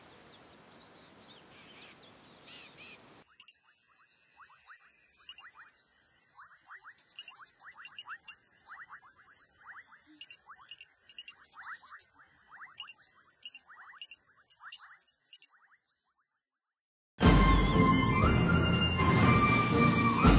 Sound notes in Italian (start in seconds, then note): 2.4 cinguettii; 17.2 musica trionfale